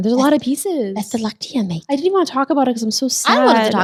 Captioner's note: talks in foreign language